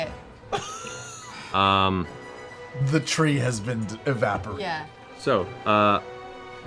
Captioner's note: laughs